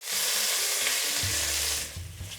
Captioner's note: sizzling sound